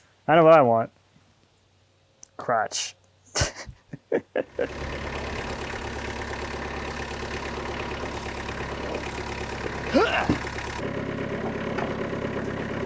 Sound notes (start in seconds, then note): 3.5 laughing; 4.5 engine rumbling